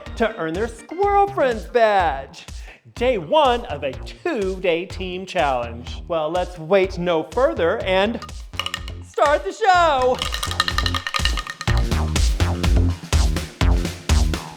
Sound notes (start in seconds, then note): 10.0 cowbell ringing; 11.9 techno music